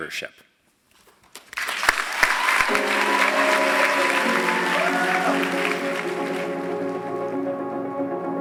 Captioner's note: applause